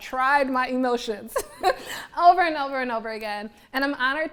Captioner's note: laughs